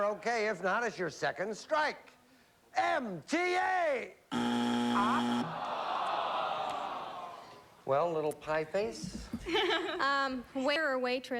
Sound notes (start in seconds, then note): 4.3 buzzer